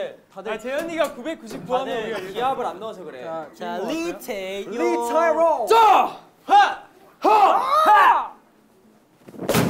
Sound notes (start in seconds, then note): 7.2 cheering